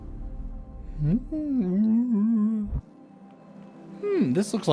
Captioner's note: whale noises